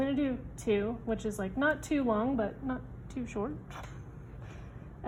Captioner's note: laughs